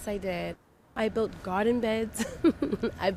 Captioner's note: laughter